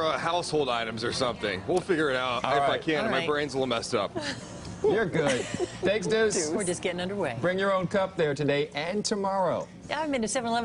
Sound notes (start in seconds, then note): 5.2 laughter